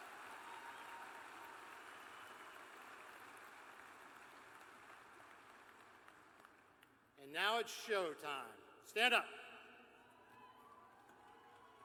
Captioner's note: cheers and applause